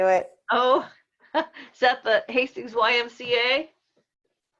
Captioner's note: chuckles